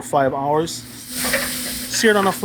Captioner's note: meat sizzles